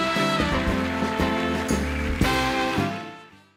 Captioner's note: applause